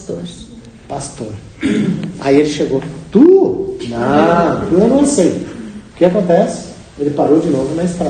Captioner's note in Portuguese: limpando a garganta